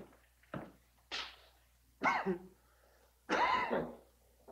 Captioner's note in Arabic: يسعل